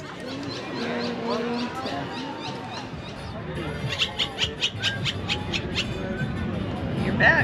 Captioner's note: bird Noises